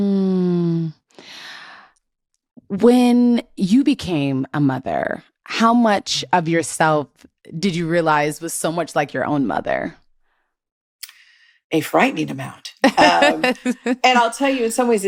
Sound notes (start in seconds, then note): 12.9 laughing